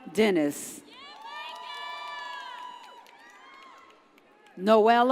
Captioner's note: audience cheers